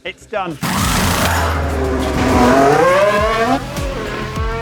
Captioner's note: car engine roaring